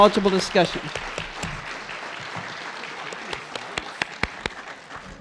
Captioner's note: audience clapping